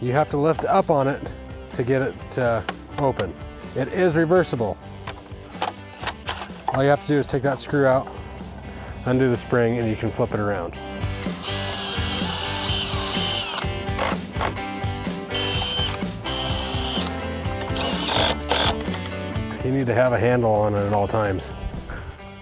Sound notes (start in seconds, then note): 11.4 drill gun drilling; 11.9 upbeat music